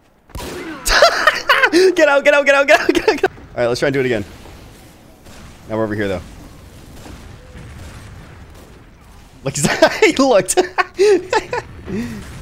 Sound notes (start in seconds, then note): 0.8 laughing; 7.5 guns firing; 9.5 laughs